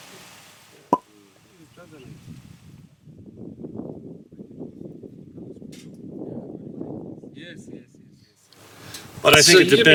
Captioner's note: wind noise